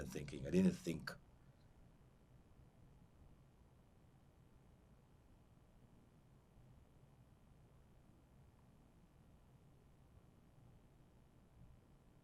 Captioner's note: pauses 11 seconds